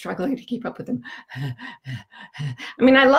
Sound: panting

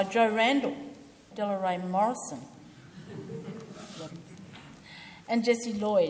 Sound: audience laughs

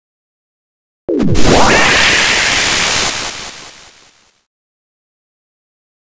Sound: sound of disturbing alien radio waves

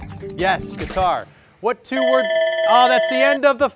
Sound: bell rings

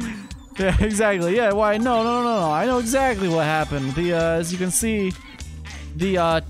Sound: laughs

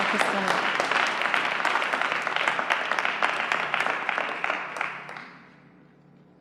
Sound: applause continues

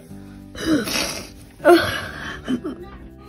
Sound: sighs; sniffles

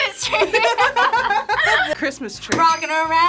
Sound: both laugh

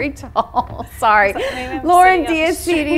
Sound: laughs

